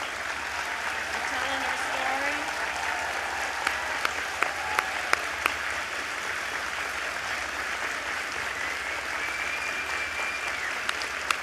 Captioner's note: applause